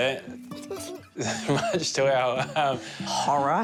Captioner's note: laughs